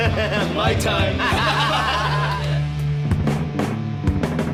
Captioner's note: laughing